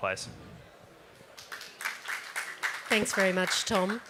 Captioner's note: applause